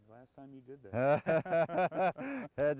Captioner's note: laghter